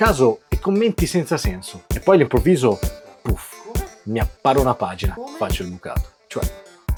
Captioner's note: poof